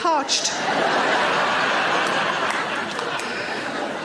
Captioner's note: audience laughing